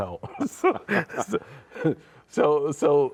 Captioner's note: laughing